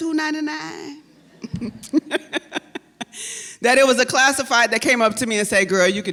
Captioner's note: laughs